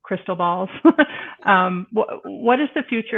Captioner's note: laughing